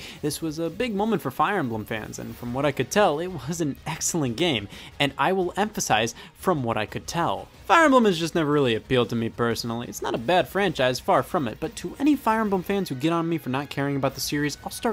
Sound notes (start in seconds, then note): none